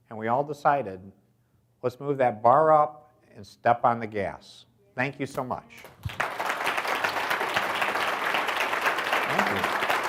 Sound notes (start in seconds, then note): 5.9 audience applauds